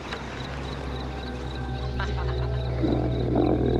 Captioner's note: dark ambient music; growling